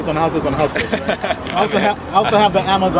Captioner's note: laughs